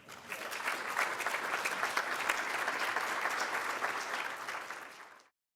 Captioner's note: applause